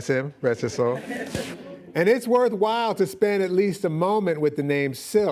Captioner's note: laughing